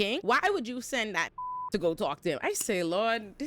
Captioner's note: beep